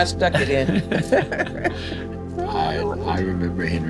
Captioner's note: both laughing